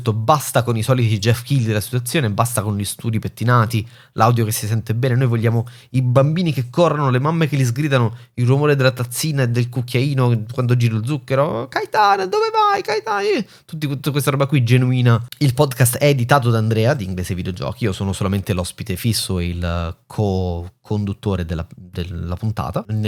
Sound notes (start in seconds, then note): 11.3 italian bar noises